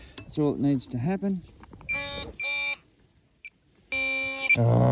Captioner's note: beep beep